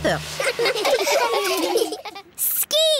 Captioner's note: laughing